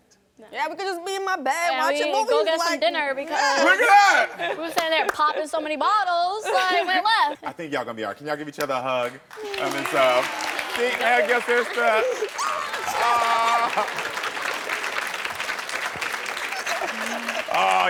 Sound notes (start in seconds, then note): 10.4 audience clapping; 13.8 clapping continues